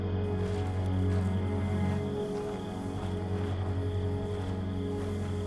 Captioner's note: crickets chirping